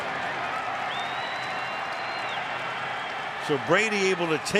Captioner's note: crowd cheering